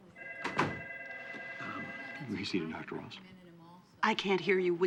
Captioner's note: whispering